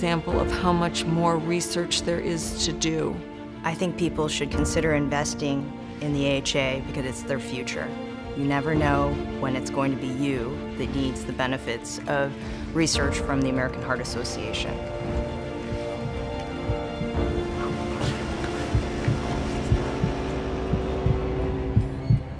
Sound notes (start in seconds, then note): 16.5 heart beating